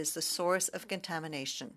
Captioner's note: speaking French